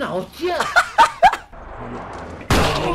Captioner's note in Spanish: risas rubiuh